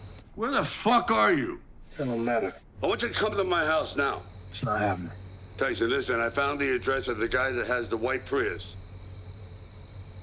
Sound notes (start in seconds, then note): 5.8 on phone